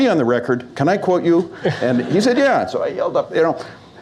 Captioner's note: laughter